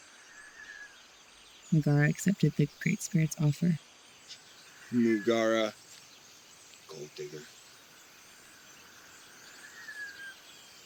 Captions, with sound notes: Muguara accepted the Great Spirit's offer. Muguara... gold digger. (Birds Chirping) (Wind Blowing)